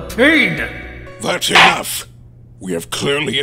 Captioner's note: gavel slams!